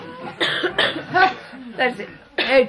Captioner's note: laughter